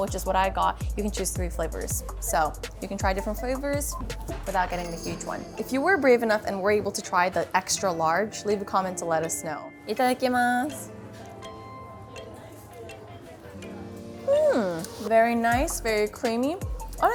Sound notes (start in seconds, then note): 9.9 speaks in foreign language; 11.0 chill music